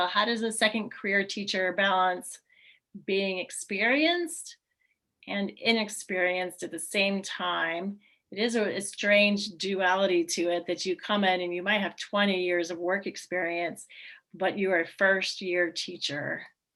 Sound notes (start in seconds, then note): none